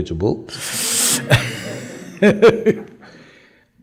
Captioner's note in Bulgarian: Смее се